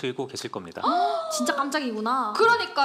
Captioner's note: astonished